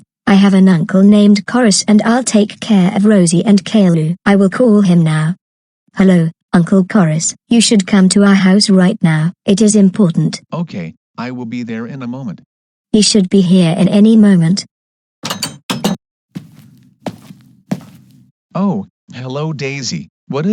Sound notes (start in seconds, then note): 15.2 door opens & closes; 16.3 footsteps